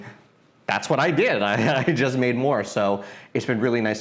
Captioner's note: chuckles